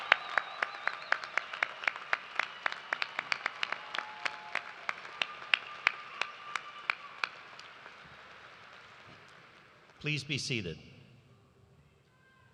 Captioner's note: cheers and applause